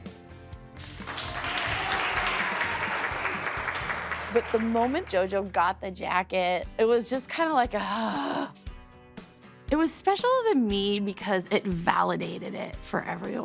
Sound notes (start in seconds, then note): 0.8 applause, cheering; 7.8 sighs